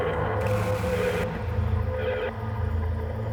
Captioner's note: TV static